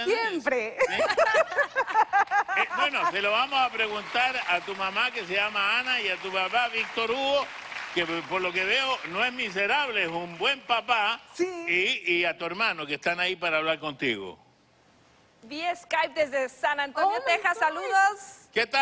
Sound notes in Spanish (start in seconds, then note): 0.8 Risas; 3.2 Aplausos